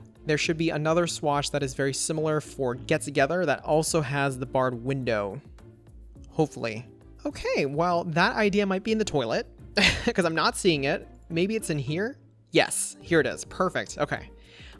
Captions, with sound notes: There should be another swatch that is very similar for Get Together that also has the barred window, hopefully. Okay. While that idea might be in the toilet (chuckles) because I'm not seeing it, maybe it's in here? Yes, here it is. Perfect. Okay.